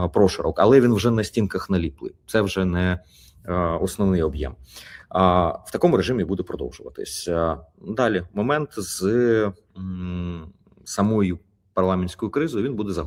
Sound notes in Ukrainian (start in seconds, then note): 4.7 сопіння